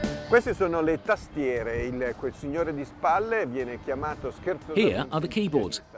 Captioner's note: speaking foreign language